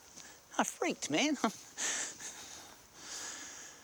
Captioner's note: scoffs